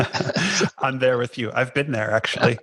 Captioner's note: laughs